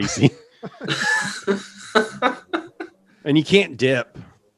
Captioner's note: hosts laughing